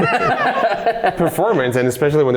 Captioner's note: laughing